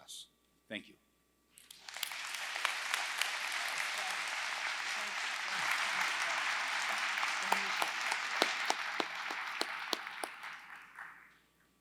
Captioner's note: applause